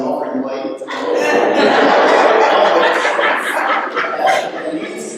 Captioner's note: laughter